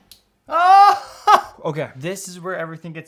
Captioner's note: cheers